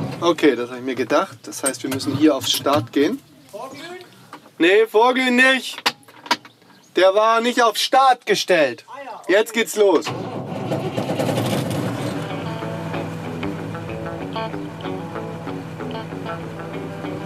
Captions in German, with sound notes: Okay, das hab ich mir gedacht, wir müssen hier auf Start. Vorglühen? Nee, Vorglühen nicht. Der war nicht auf Start gestellt. Jetzt geht's los. (Motor startet)